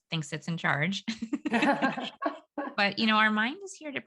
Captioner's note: laughing